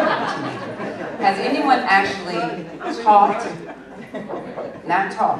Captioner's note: laughter